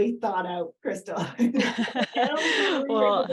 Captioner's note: laughter